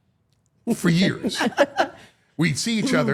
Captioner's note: people laughing